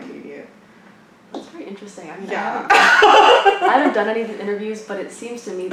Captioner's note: laughs